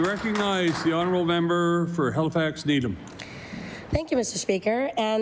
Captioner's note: applause